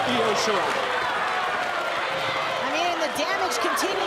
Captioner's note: crowd cheering